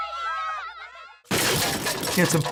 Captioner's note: loud crashing sound